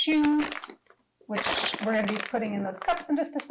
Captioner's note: polythene squeaking